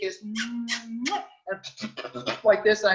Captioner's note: smacking kissing sound